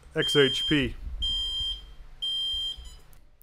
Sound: kiln Beeping

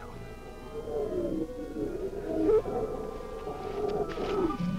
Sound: creature growling

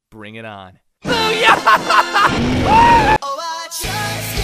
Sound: monster Roar

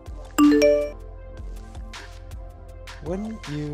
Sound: message dings

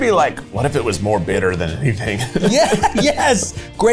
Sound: laughs

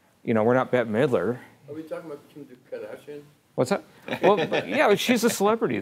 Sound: laughing

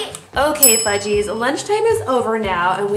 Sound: bell dings

